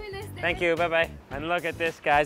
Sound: foreign language

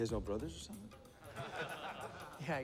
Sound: laughter

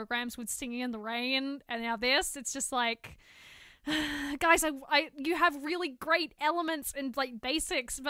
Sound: sigh

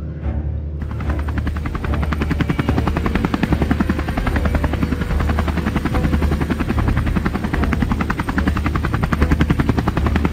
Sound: helicopter sounds

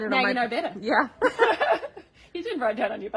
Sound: both laugh

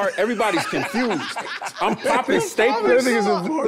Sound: everyone laughing amusingly

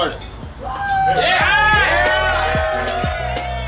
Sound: relaxing music; cheering crowd

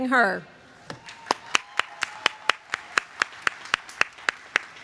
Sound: applause

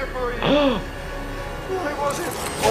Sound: person gasps

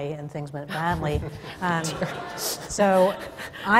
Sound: laughter

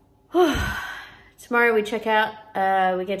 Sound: heavy sigh

